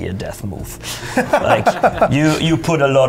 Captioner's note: laughter